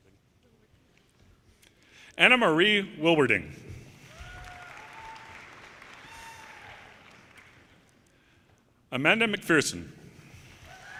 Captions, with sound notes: Anna Marie Wilwerding, (audience cheers and applause) Amanda McPherson,